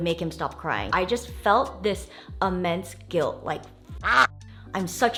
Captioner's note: quacks